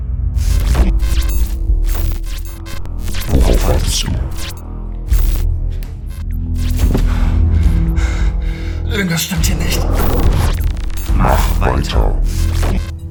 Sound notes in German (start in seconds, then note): 0.2 glitching; 3.2 Dämonische Stimme; 9.0 Normale Stimme; 11.1 Dämonische Stimme